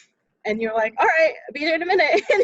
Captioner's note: laughs